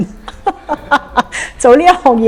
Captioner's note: laughs